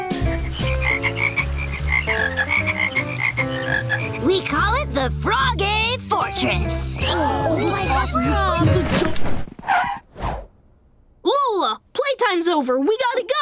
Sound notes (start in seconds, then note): 0.3 ribbiting; 5.3 indistinct chattering